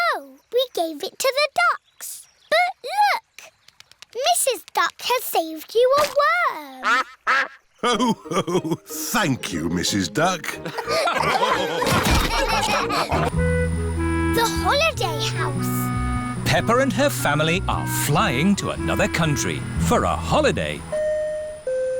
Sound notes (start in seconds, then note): 6.8 quacks; 10.5 laughter